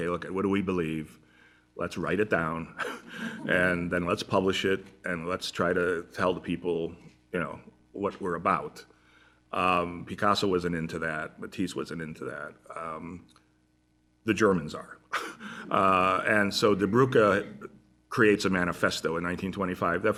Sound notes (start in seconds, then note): 2.8 laughter; 15.1 laughter